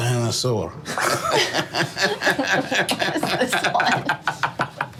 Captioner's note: group laughing